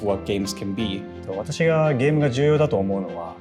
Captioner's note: non-english speech